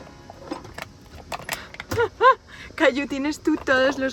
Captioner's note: laughs